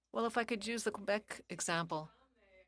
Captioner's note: speaking French